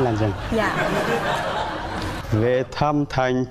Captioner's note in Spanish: risas